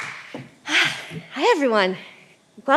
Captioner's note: sighs